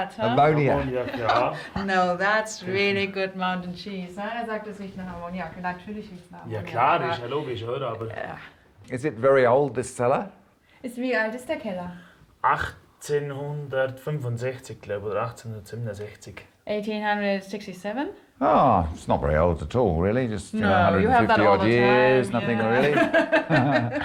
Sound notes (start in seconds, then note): 10.3 speaks German